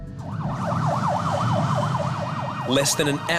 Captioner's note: ambulance sirens wailing